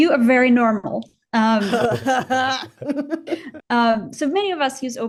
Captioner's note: laughing